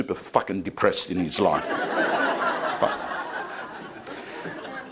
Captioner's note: crowd laughing